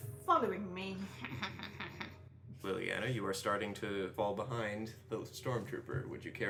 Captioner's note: sneaky laughter